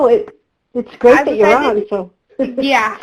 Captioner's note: laughs